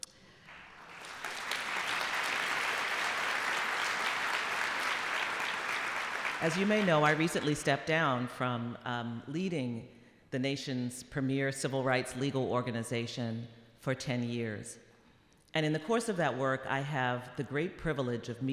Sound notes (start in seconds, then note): 0.4 applause